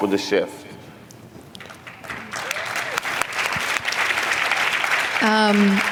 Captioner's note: applause